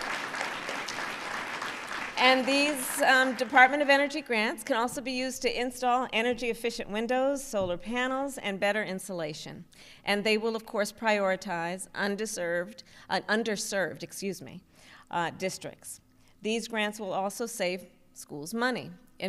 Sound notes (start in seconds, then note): 0.0 applause